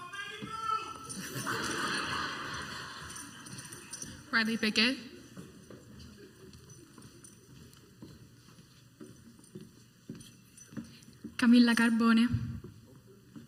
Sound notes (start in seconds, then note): 1.1 crowd laughs; 8.2 high heeled footsteps walking onto the stage